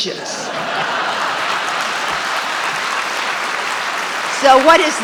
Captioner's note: audience applauding